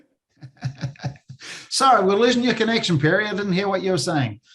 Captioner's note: laugh